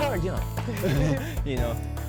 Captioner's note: both laugh